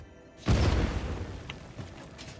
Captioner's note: explosion